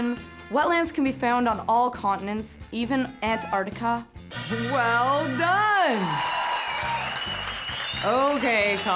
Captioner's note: cheers